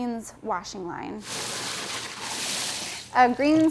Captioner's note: water sprays